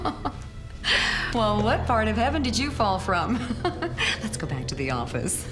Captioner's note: laughs